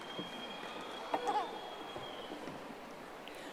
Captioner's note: audience applauding